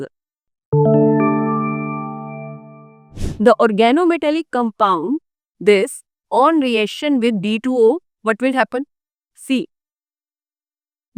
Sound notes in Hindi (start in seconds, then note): 3.1 नाक से की जाने वाली आवाज़